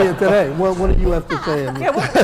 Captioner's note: laugh